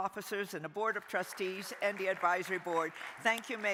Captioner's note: crowd applauding